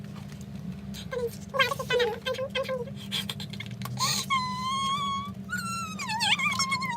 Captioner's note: cries pt.n